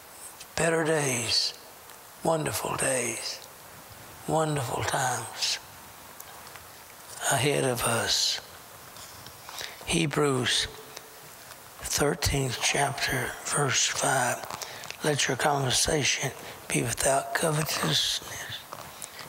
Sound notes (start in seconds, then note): none